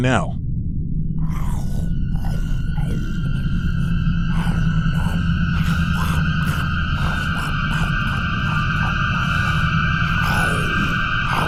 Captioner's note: goblin noises